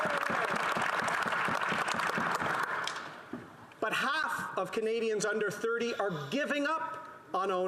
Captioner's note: some applause